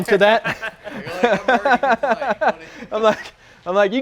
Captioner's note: loud laughing